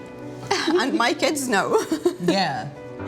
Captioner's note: chuckles